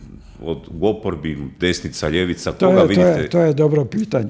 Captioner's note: coughs